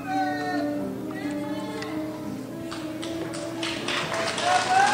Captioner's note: crowd shouts; crowd applauds and cheers